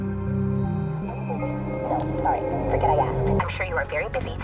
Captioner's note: muffled voiceover